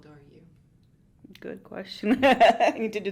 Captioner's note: laughs